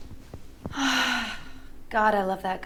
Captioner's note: Maisie sighs